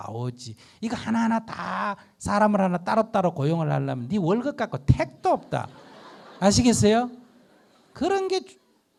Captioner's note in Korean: 청중 웃음